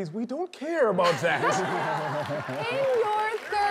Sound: audience laughing

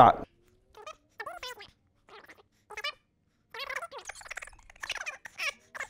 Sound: tape squealing rapidly

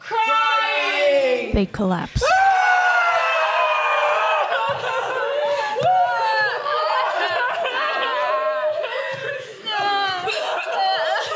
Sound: wailing that turns into quieter sobs over time

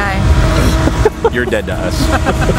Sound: laughing

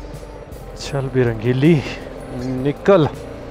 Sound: motorcycle

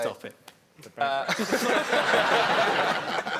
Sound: laughing

